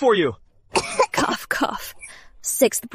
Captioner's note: cough, cough